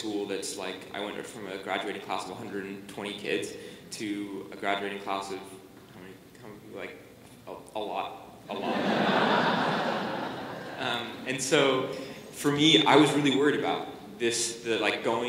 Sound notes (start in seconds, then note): 8.5 laughter